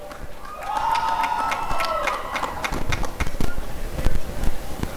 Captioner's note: applause and cheering